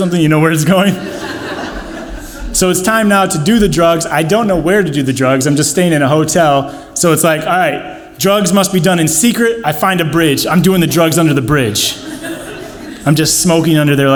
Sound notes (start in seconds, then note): 10.7 audience laughs